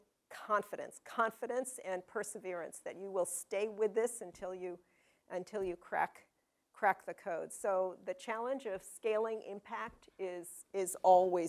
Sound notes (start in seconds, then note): none